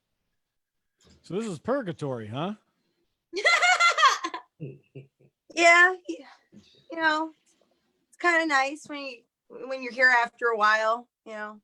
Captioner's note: laughter